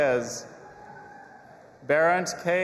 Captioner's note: audience applauding and cheering